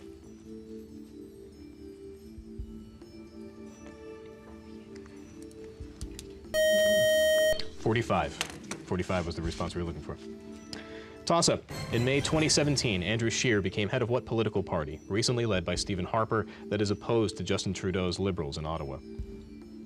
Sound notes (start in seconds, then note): 4.1 whispering; 6.5 time out buzzer